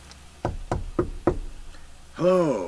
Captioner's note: knocking sound